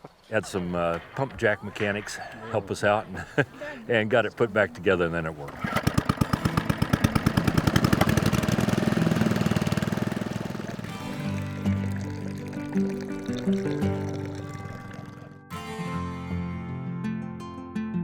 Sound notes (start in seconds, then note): 6.8 engine sputtering; 6.8 water drizzling; 15.8 slow country music